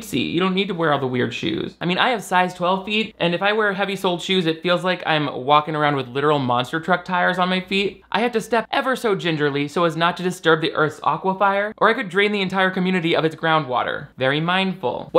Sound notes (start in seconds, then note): none